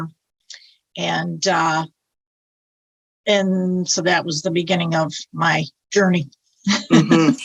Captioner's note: laughs